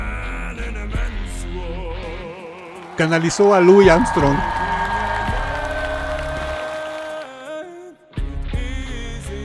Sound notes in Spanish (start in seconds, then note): 2.0 ovación; 2.3 aplausos